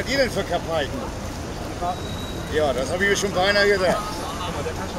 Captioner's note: laughs